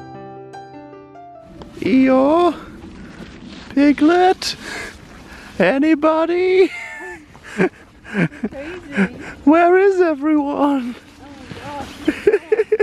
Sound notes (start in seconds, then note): 1.2 Pooh voice